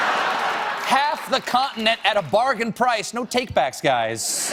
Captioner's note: laughter